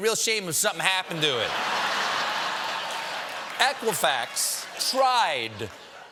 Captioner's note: laughter